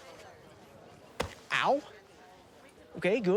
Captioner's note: fist thuds